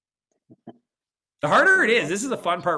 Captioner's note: laughs